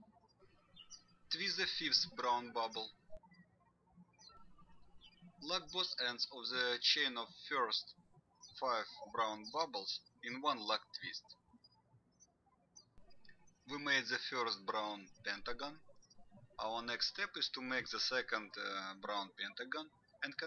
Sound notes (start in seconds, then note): 4.1 birds chirping